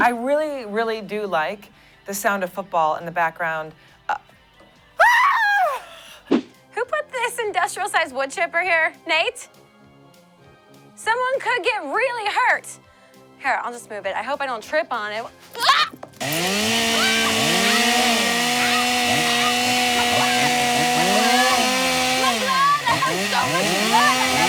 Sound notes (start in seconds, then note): 16.6 grinding; 16.9 screams